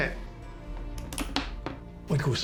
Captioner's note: gun clicking